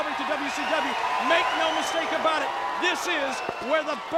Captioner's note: crowd cheering